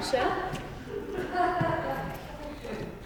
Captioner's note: audience laughs softly